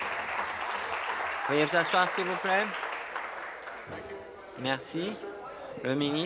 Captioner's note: applause